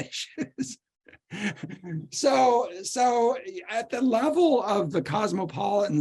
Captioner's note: laughter